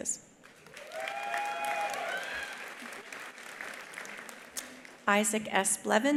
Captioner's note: attendees applauding; attendees cheering